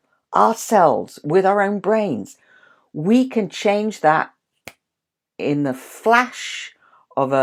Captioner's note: snaps fingers